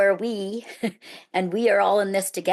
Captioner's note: chuckles